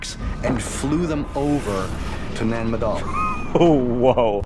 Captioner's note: wheezes